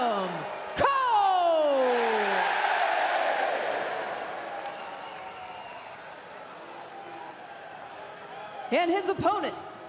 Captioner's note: crowd cheering